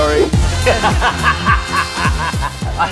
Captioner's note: laughs heartily